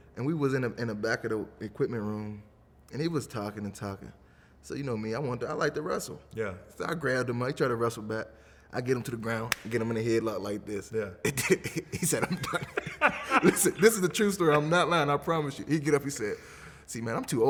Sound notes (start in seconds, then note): 9.4 slaps; 12.9 laughing